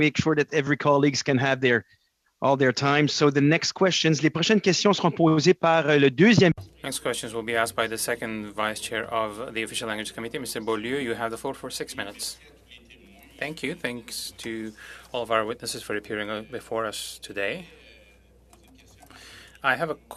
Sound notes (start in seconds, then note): 9.8 speaking French